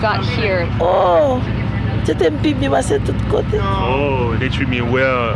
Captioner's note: in Creole